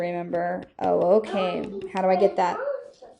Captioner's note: child mumbling